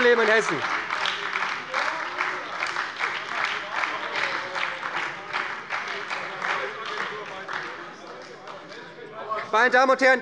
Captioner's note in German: Beifall bei der SPD - Lebhafte Zurufe von der CDU